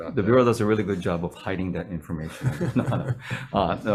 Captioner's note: chuckling